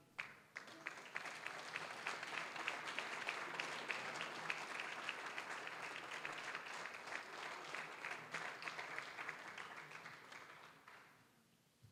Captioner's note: applause